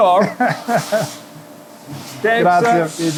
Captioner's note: laughing